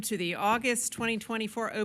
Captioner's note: gavel